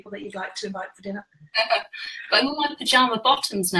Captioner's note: laughs